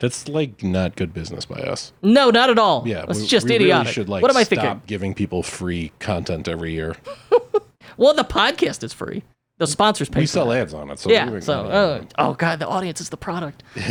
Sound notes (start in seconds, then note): 7.0 laughs; 13.7 laughs